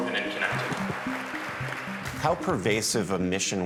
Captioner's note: applause